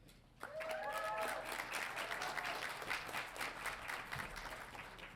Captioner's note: audience applauding